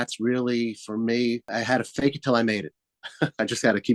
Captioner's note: laughs